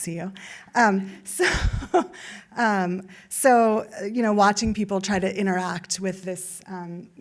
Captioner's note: laughs